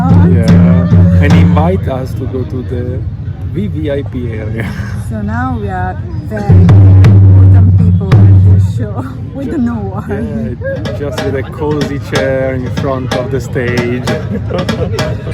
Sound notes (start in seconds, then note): 9.9 laughing